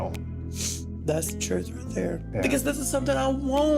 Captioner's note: sniffles